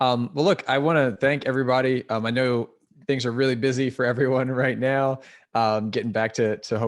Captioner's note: laugh